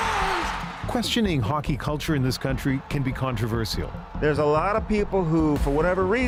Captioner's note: cheers and Applause